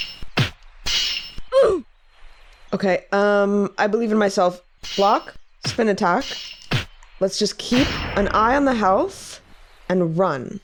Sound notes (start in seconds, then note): 1.5 Roblox oof